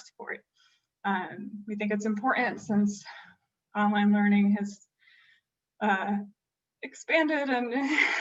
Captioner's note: laughter